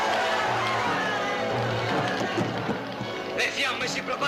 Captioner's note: yelling; grandiose music